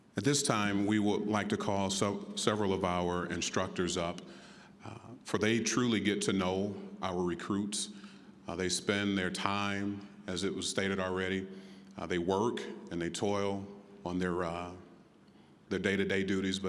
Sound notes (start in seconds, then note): none